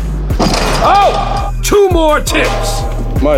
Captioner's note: dunk sound